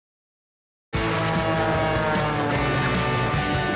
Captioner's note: airplane whirring; upbeat music